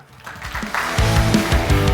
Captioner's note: participants applauding; upbeat music